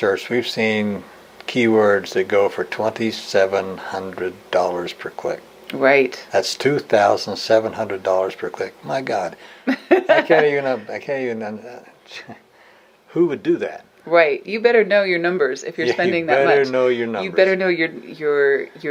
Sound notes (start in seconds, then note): 9.6 laughs